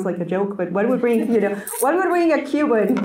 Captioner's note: audience laughs